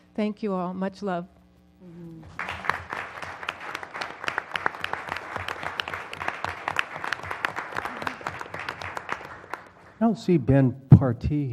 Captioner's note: applause